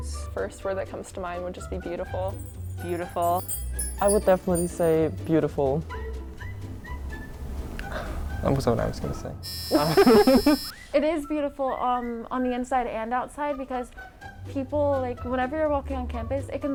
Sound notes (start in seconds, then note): 9.4 buzzing; 9.7 laughing